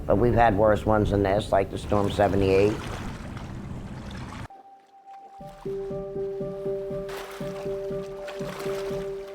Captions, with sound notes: But we've had worse ones than this. Like the storm of '78. (waves splashing) (gentle music)